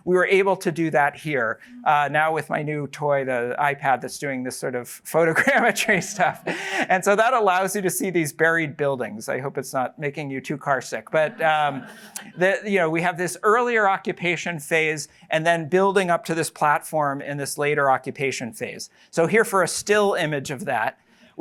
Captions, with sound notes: we were able to do that here, now with my new toy, the iPad, that's doing this sort of photogrammetry stuff. [LAUGHS] And so that allows you to see these buried buildings. I hope it's not making you too carsick. But-- [LAUGHTER] --we have this earlier occupation phase and then building up to this platform in this later occupation phase. So here for a still image of that,